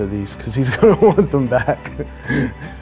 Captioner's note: chuckles